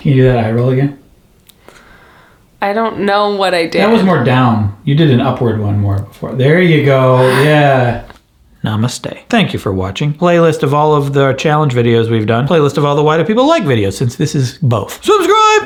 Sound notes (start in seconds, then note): 2.7 inhales; 7.2 laughs softly